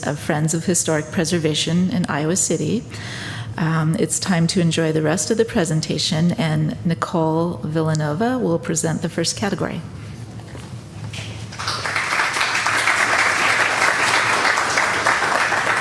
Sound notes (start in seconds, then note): 11.4 applause